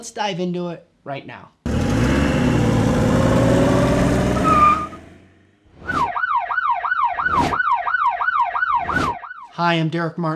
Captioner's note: car & sirens